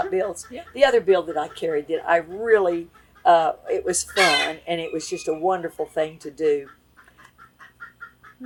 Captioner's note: laughs